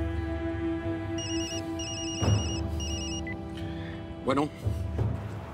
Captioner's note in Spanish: Suena el celular